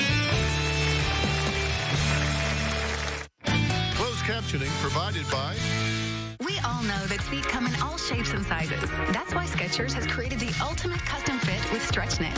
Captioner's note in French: applause